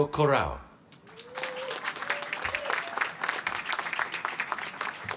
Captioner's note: applause